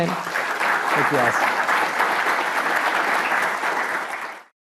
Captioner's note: audience applauds